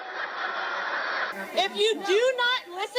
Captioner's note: crowd laughing